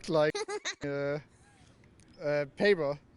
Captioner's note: giggle